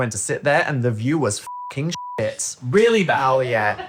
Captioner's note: beep